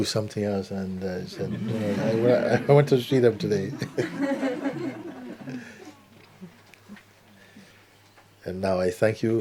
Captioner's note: laughter